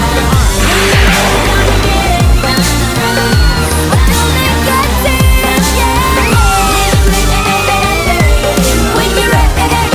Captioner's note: Sweet Polly Screams